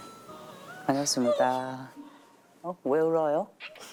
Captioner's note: cries